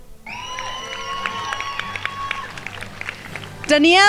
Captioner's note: crowd applauding